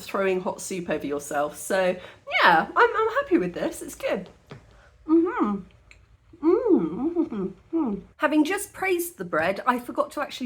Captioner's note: happy noises